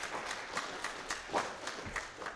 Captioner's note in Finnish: Aplodit